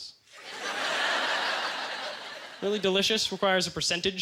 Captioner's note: audience laughter